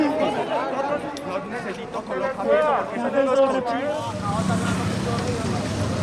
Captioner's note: arguing